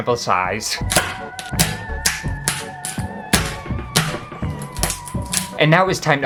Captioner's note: bamboo Snapping